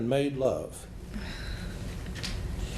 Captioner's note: sighs